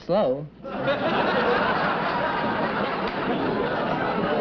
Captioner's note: chuckling